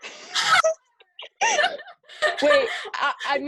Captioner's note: laughter